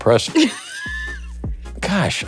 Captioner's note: Kathryn laughs